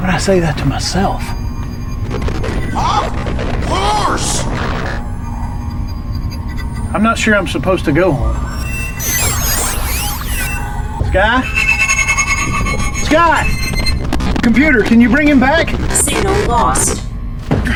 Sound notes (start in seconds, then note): 9.5 devices whirring